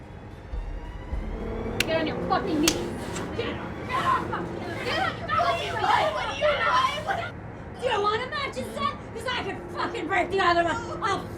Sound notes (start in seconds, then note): 2.6 hands slapping; 5.4 women yelling